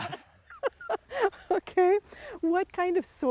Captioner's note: laughing